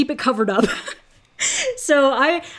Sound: laughing

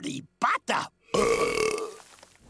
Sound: belching

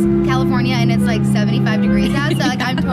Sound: laughing

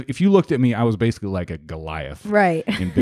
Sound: laughs

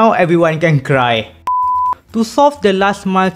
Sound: beep

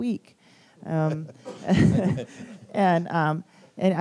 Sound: laughter

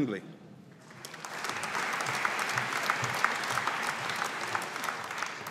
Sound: audience applauding

